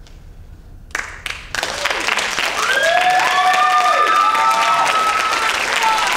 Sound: audience applauding and cheering

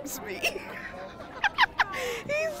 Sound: laughing

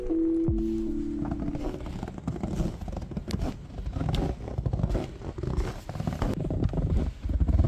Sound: snow walking asmr

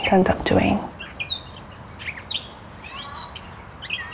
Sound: birds chirping

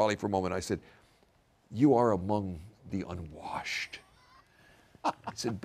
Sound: laugh

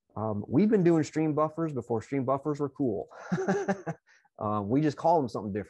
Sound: laughs

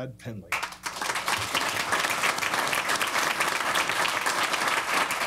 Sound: applause

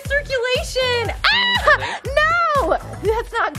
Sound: screams

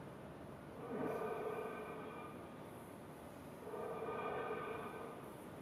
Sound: rhythmic breathing continues

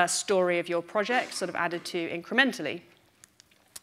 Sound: none

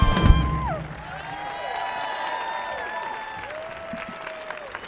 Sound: audience applauding

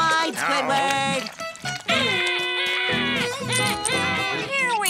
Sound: screaming

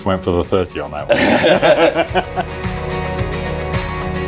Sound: men laughing; upbeat music

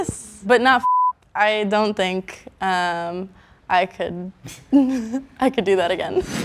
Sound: beep

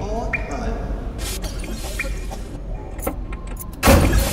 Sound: coughing; rhythmic thudding, jingling, scraping

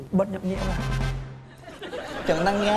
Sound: laughs

